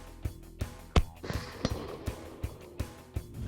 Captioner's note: rock music; gun shot